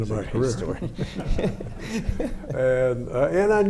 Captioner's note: laughs